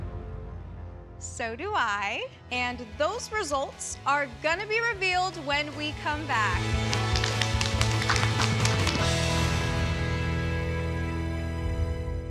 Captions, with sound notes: So do I. And those results are going to be revealed when we come back. [applause]